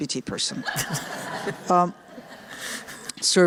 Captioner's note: laughter